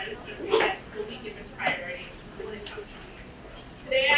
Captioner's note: speaking away from mic